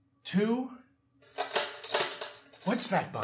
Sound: front door wood cracking

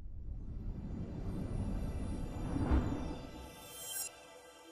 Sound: air whooshing

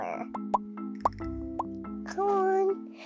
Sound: bubbles popping

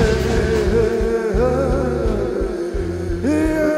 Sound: voice echoes melodically

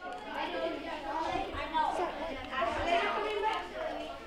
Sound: children talking

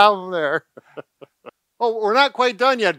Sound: laughing

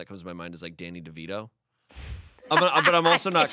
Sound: laughing

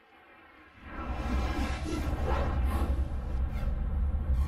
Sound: whooshing sounds

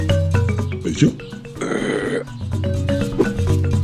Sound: belching

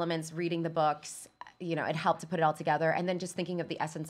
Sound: none

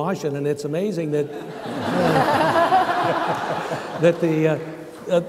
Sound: laughing

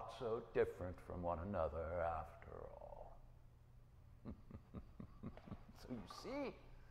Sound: laughing

